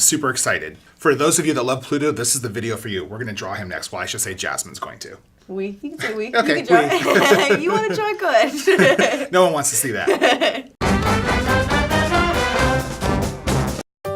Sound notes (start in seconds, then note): 5.9 laughs; 10.8 intense band music